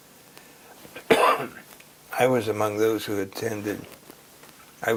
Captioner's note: cough